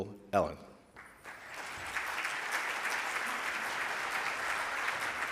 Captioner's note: audience clapping